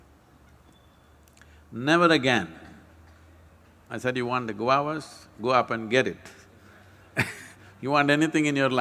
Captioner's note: laughs